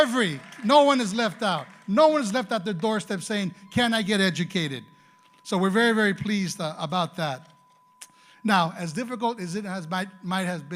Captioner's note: applause